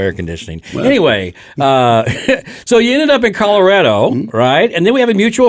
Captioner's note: laughs